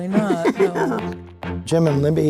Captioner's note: laughing